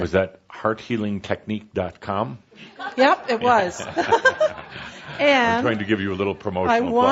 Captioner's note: she giggles